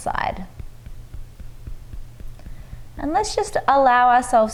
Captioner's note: fingers tapping lightly